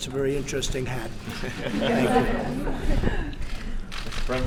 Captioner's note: laughter